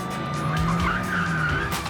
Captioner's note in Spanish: Chirrido de neumáticos; Sirenas